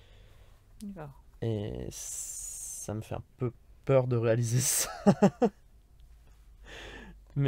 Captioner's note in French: Rires